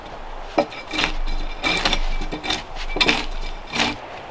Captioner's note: tool scraping